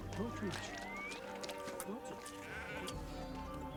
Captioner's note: sheep Bleating